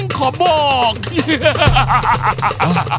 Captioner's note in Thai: หัวเราะ